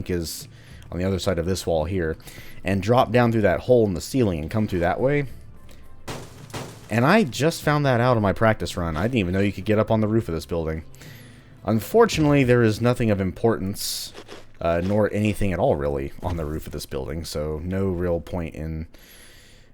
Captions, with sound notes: is on the other side of this wall here -- and drop down through that hole in the ceiling, and come through that way, *smash smash* and I just found that out on my practice run; I didn't even know you could get up on the roof of this building. Unfortunately, there is nothing of importance... uh, nor anything at all really on the roof of this building, so no real point in...